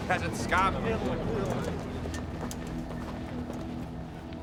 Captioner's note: chattering